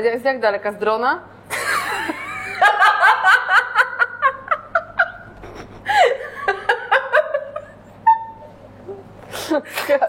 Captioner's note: laughter